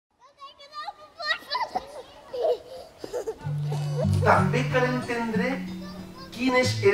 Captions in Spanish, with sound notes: [risas de niños] También conviene entender